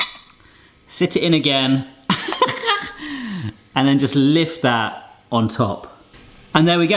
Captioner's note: laughs